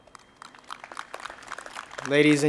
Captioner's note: audience applauds